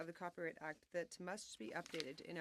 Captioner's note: speaking French